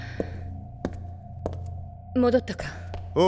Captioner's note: Mitsuru out of breath; footsteps